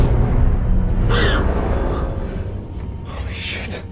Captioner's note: intense music; Emily gasps